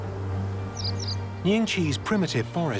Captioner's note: birds singing